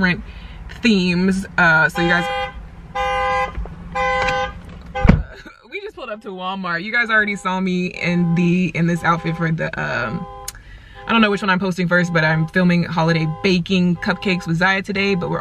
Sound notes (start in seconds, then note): 2.9 car alarm; 5.3 laughs